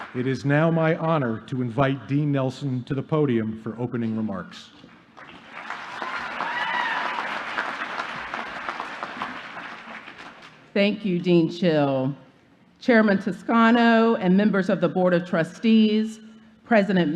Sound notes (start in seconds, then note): 10.0 applause